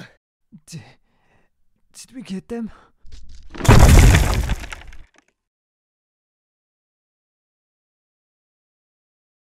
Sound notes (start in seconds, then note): 0.0 The Medjai and The Mage panting heavily; 3.1 debris falls